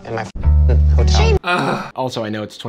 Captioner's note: sighs heavily